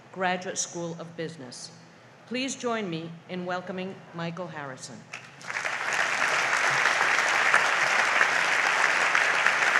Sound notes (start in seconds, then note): 5.2 audience applauds